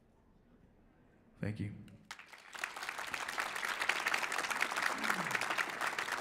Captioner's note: audience applauds